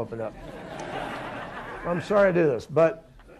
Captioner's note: laughter